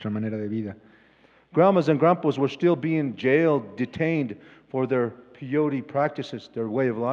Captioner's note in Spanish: Expositor habla en inglés